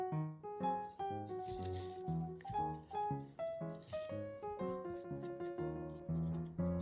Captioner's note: sounds of sugar particles remaining